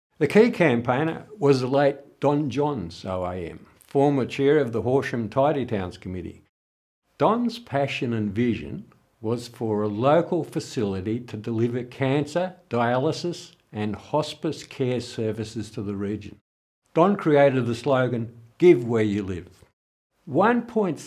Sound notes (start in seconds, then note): none